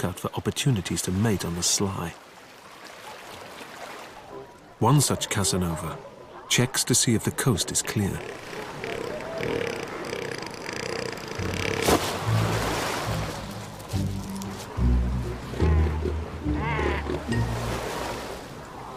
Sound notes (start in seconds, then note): 8.5 boisterous honks